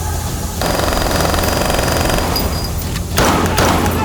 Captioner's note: henchman shouting in foreign language; guns firing; henchman shouting in foreign language